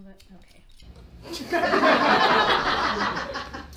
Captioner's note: audience laughs